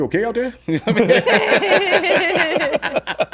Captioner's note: laughs